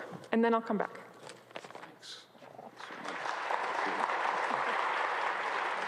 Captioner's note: audience applauds